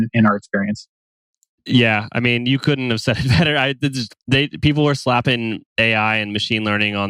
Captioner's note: laughs